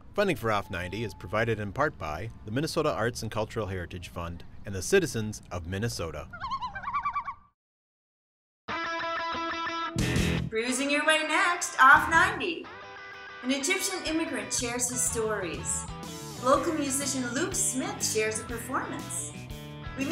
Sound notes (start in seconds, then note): 6.2 loon calling; 8.7 rock music